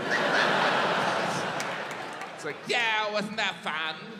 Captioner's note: audience laughs